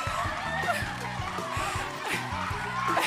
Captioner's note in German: Jubel